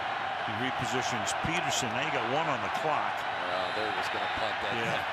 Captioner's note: cheering